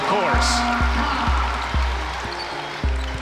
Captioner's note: cheering